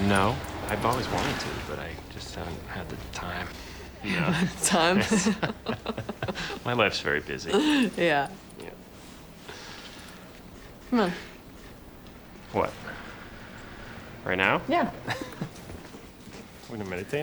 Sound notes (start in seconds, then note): 4.0 both laugh; 14.8 chuckles